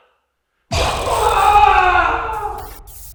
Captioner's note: nails scraping; Jacob screams; static crackles